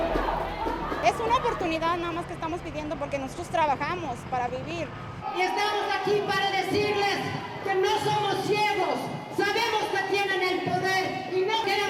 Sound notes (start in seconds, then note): 1.1 speaking in foreign language